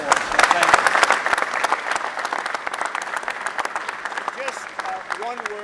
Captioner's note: applause